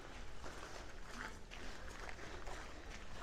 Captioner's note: gravel crunching underfoot